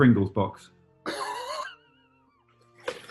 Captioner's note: sniggering